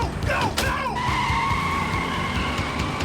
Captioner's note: brakes squealing